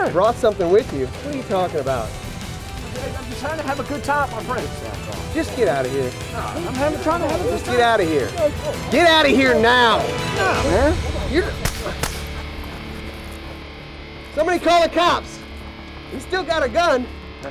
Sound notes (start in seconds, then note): 11.6 gun shots; 13.1 rock music